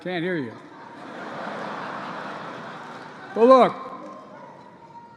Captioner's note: laughter